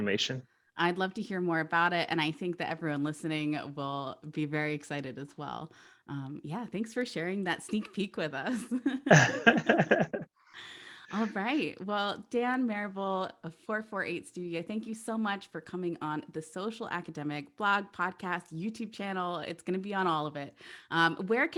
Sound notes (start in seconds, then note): 9.0 laughs